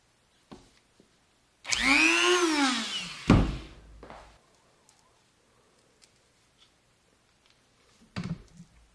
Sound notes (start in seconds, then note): 1.6 Dremel buzzes, then stops